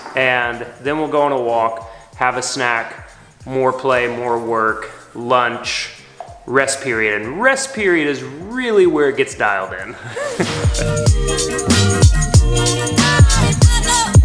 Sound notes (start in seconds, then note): 10.0 chuckles; 11.0 upbeat music